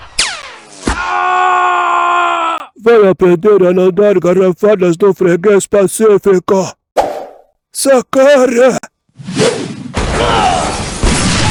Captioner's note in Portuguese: grito; gemido